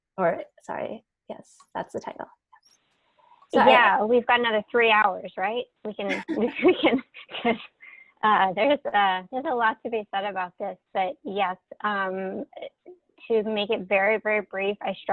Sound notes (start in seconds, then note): 6.1 laughing; 6.1 laughs